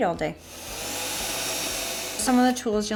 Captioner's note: drilling